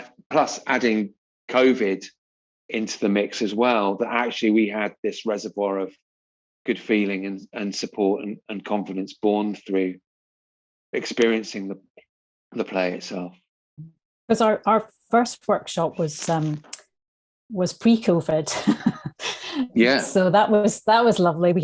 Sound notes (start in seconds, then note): 18.7 laughs